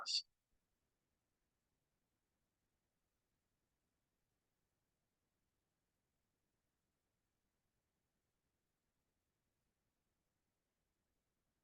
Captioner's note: pause